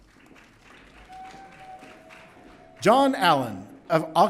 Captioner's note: audience cheering